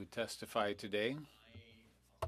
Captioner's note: speaking French